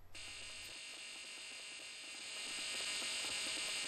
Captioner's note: buzzing intensifies